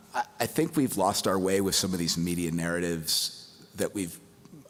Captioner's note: none